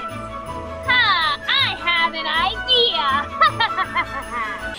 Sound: laughing

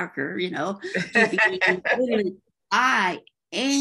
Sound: laughs

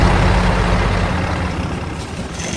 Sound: engine fading; drilling

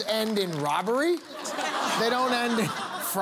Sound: laughter

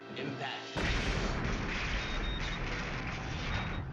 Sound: explosion

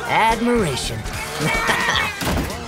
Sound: groaning

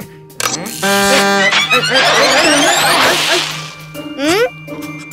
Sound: machine moving; spaceship starting

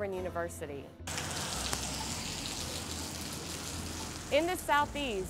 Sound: rain splattering

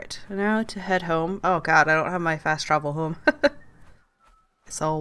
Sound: laughs

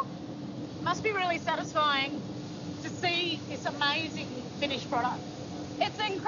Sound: none

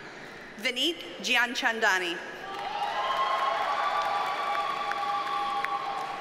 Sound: audience cheers and applauds

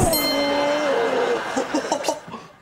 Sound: laughing

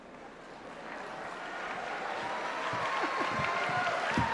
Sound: applause

